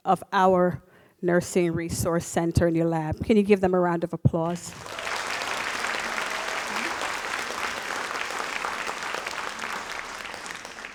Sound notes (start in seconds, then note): 4.5 audience applauds